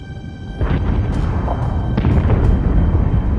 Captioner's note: explosion